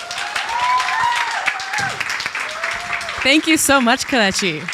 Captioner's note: audience applauding